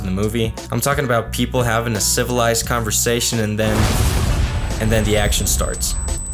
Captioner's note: boom